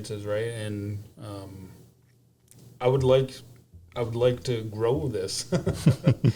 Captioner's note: laughter